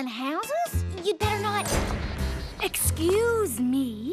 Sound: knocking

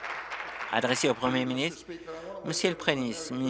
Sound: applause

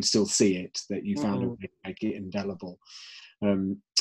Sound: voice muffled

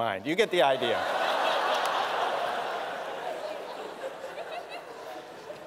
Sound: laughter

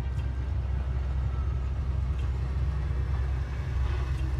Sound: tires whir

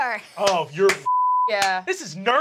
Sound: beep

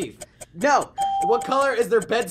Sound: ding

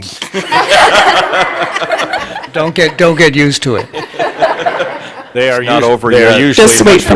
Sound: laughter

